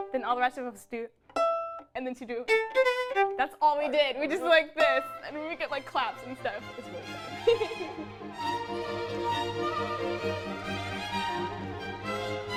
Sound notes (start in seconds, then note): 1.3 violin strums; 6.8 laughs; 8.9 upbeat orchestral music